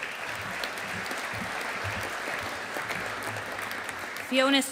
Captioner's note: audience applauding